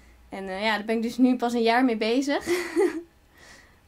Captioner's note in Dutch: lacht